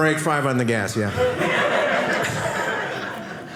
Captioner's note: audience laughing